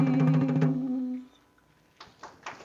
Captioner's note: applause